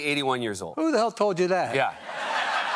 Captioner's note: laughter